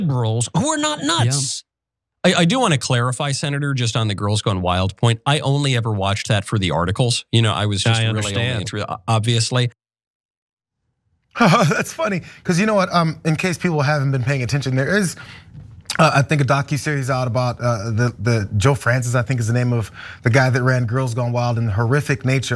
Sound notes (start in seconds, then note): 11.4 laugh